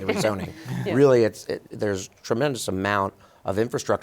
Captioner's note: guests laughing